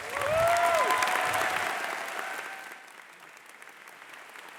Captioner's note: audience applause